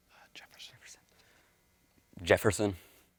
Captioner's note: whispers